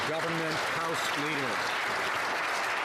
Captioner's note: some Applause